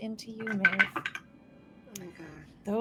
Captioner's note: dice rattling